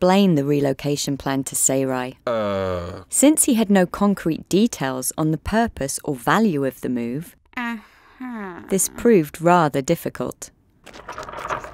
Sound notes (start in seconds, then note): 8.2 skeptical mutter